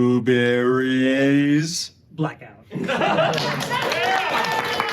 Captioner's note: applause